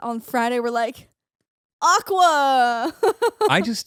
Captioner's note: laughing